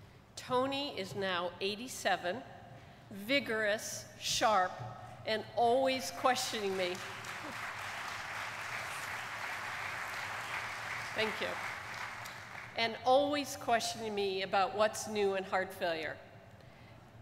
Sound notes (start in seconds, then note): 6.6 audience applauding